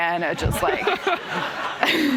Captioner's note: laughter